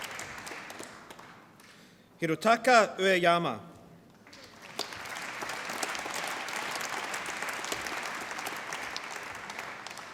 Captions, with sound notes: Hirotaka Ueyama. (APPLAUSE)